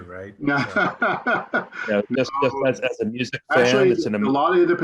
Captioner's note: laughs